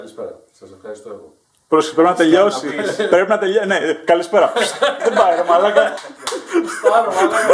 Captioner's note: laughs